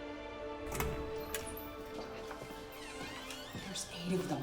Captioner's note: door creaks